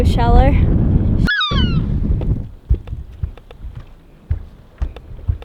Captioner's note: seagull squawking